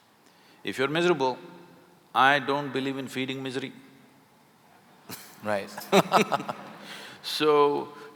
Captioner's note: laughter